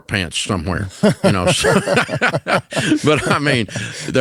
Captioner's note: both laughs